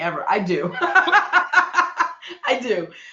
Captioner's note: laughing